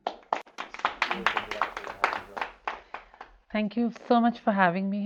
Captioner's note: group applauds